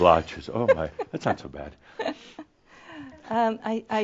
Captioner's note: she chuckles